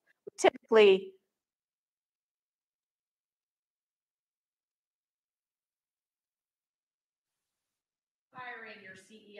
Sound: microphone cuts out

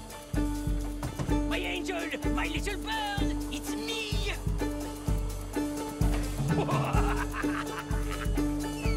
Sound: knocks on a door; laughs while entering the house

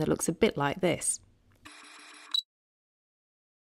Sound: camera focusing

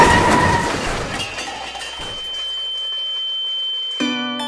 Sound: metal crunches; tone ringing

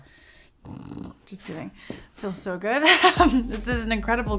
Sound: chuckles

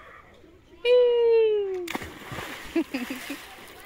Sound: splash; laughs

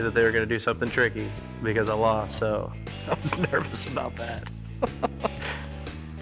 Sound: chuckling

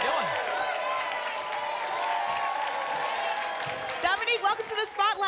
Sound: applause and cheering cont

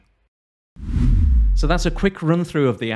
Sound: whooshing

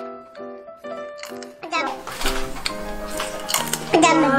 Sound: Crunch

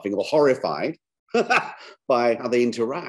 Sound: chuckles

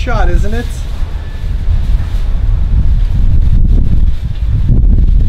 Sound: wind blowing

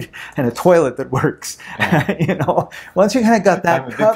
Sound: laughs

